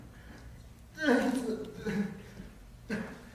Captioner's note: Wriker mumbles